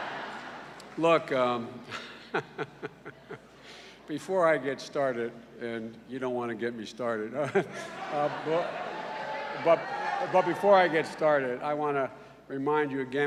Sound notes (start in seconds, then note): 0.1 laughter; 7.8 cheers